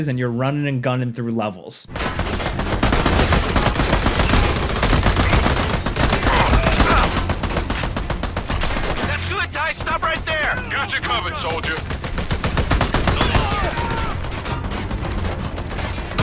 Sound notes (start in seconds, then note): 2.1 guns blasting; 11.9 guns blasting; 13.1 enemy grunting